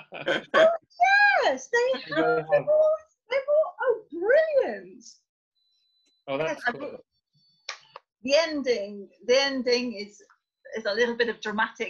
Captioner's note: laughter